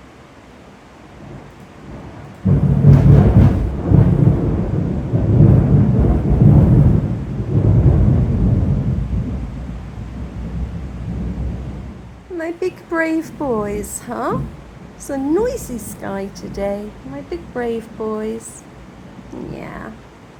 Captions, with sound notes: [loud thunder] My big brave boys, huh? It's a noisy sky today. My big brave boys. Yeah.